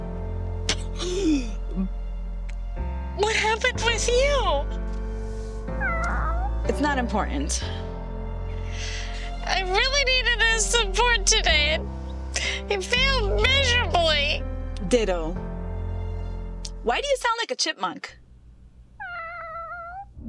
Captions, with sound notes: [gasping for breath] What happened with you? [cat's meow] It's not important. I really needed his support today...and.. He failed miserably. Ditto. Why do you sound like a chipmunk? [cat's meow]